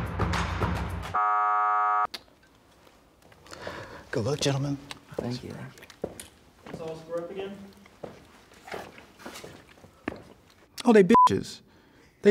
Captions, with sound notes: (buzzer dinging) - Good luck, gentlemen. - Bye, best friend. - Oh, they- (beep)